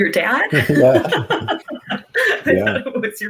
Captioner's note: laughs